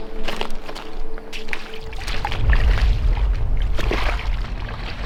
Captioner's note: water sploshes